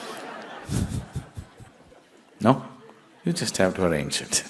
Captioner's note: laughter